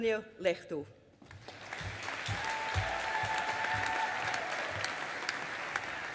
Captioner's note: audience applauding